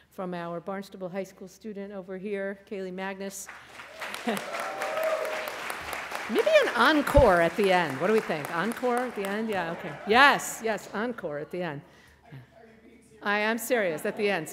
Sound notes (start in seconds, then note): 3.4 applause